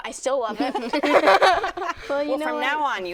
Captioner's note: laughter